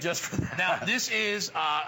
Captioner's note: laughter